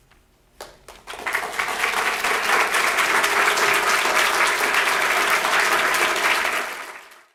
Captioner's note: applause